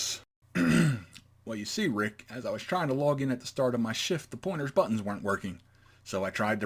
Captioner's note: ahem